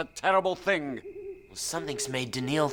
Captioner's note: owl hooting